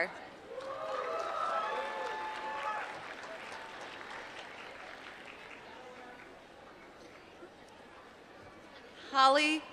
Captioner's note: applause